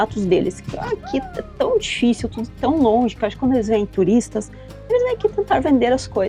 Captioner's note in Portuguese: risadas